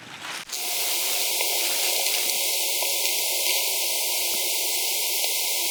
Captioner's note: audio hissing and clicking